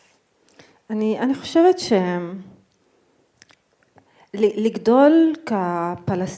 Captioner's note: speaking in foreign language